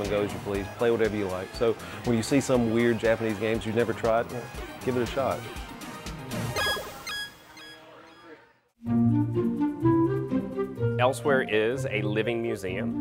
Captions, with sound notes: you can come and go as you please, play whatever you like. So when you see some weird Japanese games you never tried, give it a shot. [video game beeping] [mellow music] - Elsewhere is a living museum